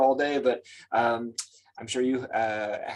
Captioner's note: lips smack